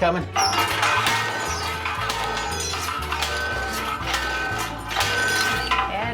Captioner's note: pounding